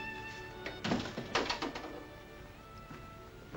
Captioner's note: cane clatters; door closes